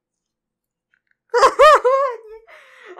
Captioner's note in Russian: смех, полный разочарования